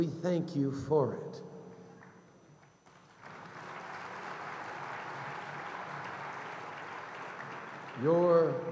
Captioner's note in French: Applaudissements